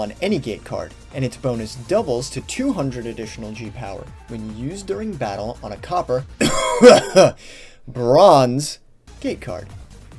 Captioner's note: fake cough